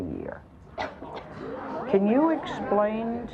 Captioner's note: audience gasps